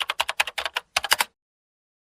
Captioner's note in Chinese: 敲键盘声